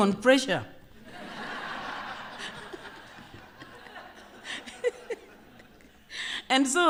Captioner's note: laughter